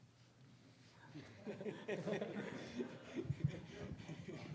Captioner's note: laughing